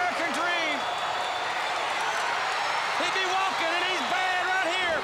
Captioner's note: crowd cheering